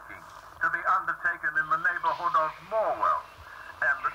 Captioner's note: voice on radio